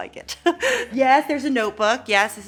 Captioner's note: Elle laughing